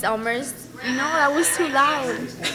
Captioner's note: female mumbles